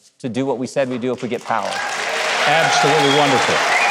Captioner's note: audience cheering